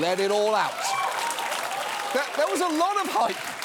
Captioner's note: studio audience applauds